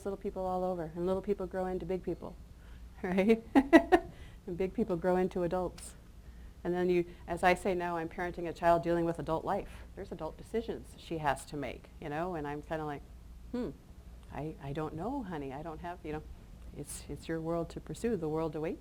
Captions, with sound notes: Because there's little people all over and little people grow into big people, alright? [chuckles] And big people grow into adults. And then you, as I say now I'm parenting a child dealing with adult life. There's adult decisions that she has to make, you know? And I'm kind of like, hm, I don't know, honey. I don't have, you know, it's your world to pursue.